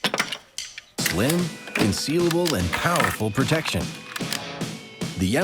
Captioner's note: voiceover